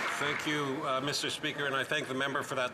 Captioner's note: some Applause